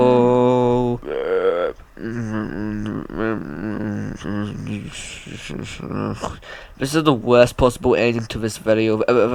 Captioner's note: defeated mumbling